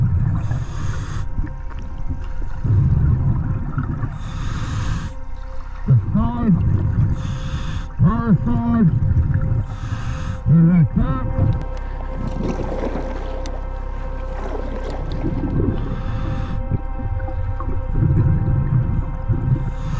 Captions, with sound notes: The side, driver's side, is intact. (water rushing) (audible breathing)